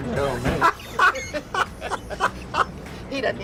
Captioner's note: laughs